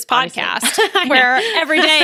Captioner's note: laughs